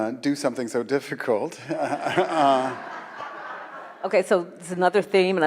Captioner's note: audience laughs